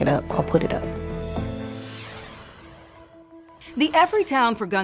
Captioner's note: graphic whooshing